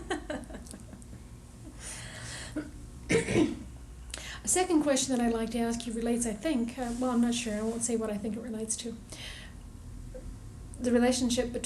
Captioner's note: laughter